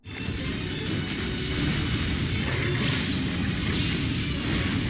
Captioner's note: gameplay playing